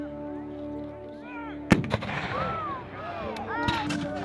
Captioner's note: cannon firing